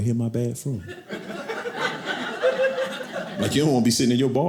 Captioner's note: audience laughing